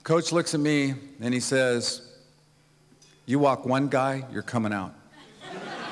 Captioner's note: laughter